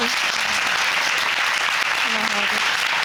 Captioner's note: audience applauding